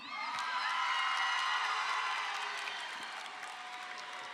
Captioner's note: crowd cheers